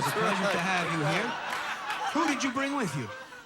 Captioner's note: audience laughing